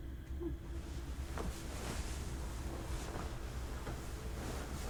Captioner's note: bedding rustles